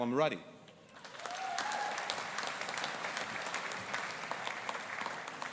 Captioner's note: audience applauding